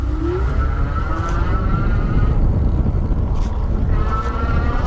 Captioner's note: bike whirring